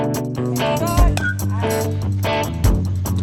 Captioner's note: bat pings